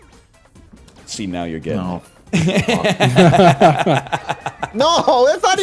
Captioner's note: laughs